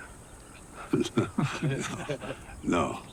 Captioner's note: everyone laughs